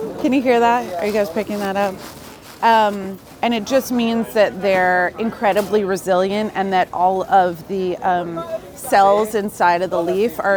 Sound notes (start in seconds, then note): 2.6 greens squeaking